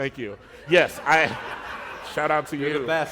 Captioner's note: laughter